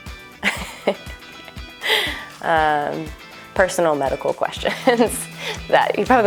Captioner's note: laughs